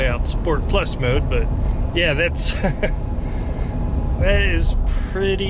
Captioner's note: laughing